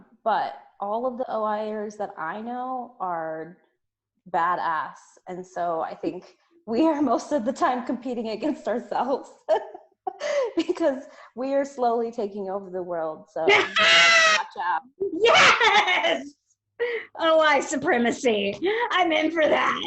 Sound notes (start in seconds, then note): 9.5 both laugh; 13.4 laughs out loud